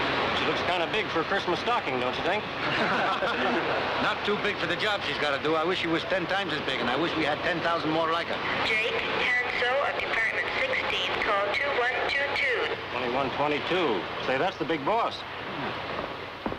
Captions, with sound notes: She looks kind of big for a Christmas stocking, don't you think? [laughing] Not too big for the job she's got to do. I wish it was ten times as big, and I wish we had 10,000 more like her. (woman on PA) 'Jake Hanso at department 16' 'call 2122.' 2122, say, that's the big boss.